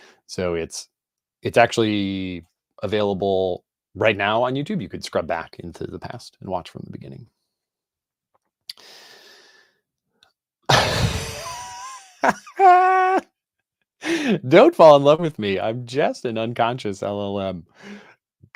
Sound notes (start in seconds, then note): 10.8 laughs